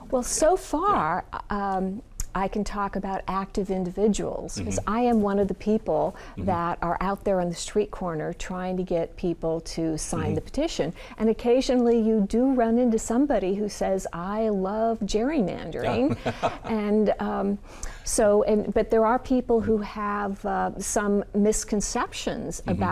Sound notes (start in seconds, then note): 15.8 laughing